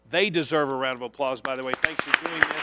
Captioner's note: applause